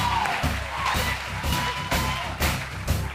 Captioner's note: cheering and applause